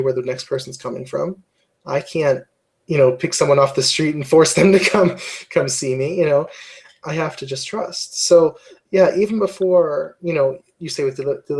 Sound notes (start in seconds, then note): 4.7 laugh